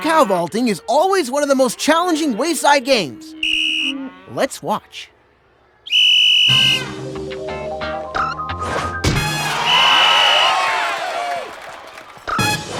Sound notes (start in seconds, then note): 3.2 blows whistle; 5.8 whistle blows